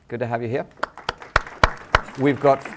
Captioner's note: applause